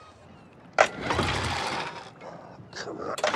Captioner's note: motor stalling